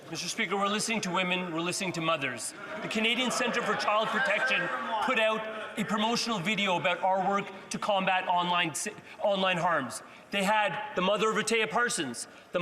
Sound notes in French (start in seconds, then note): 3.6 voix de l'interprète